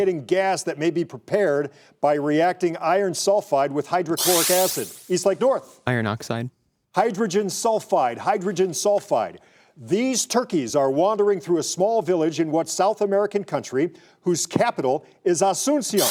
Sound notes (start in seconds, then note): 4.2 buzzer sounding; 16.0 buzzer sounding